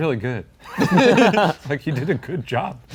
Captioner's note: everyone laughs